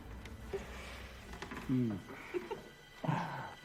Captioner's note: Louise sighing; Matthew groaning; Louise giggling